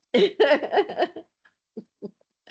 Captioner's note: laughter